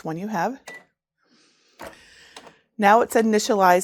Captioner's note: printer beeps